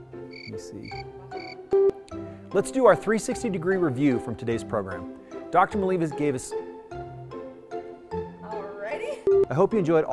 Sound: crickets

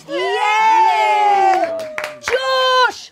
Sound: audience cheering

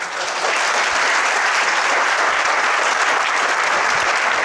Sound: group applauds

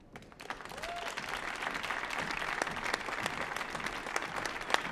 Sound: audience applauding

